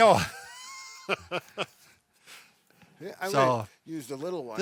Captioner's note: laughing